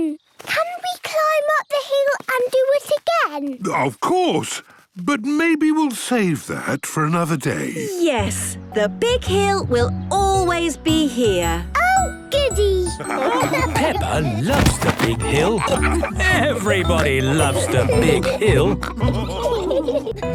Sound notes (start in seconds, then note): 12.7 laughing; 18.9 all laughing